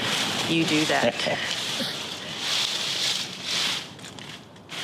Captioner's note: Solomon chuckles